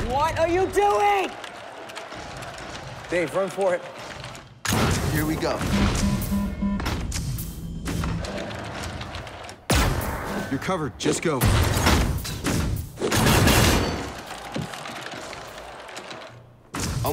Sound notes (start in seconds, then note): 5.8 alarm ringing